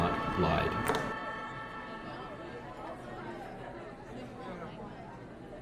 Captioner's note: people chattering